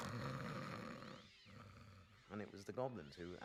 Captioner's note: imitating snoring